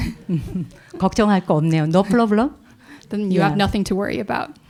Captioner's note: audience laughs; speaking in Korean